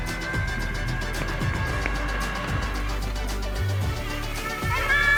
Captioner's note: boy talking; engine revving